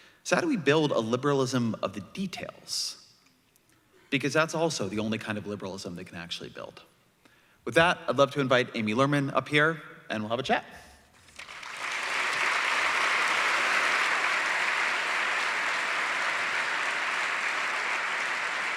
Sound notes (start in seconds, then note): 11.2 applause